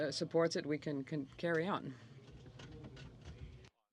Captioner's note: speaking French